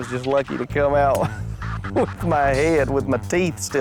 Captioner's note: lauaughghs